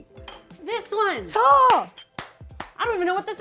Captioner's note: speaking Japanese; speaking Japanese